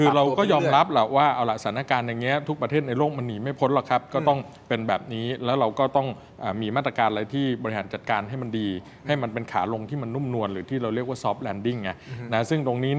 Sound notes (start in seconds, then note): none